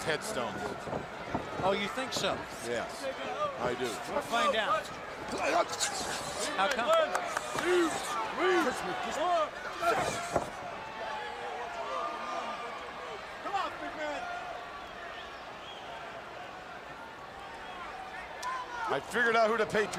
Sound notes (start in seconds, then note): 8.6 crowd chattering